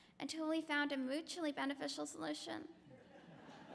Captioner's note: laughter